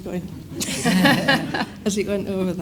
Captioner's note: audience laughs